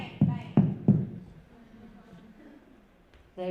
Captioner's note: bang bang bang